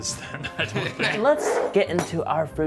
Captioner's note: laughing